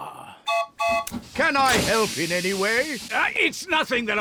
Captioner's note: toots horn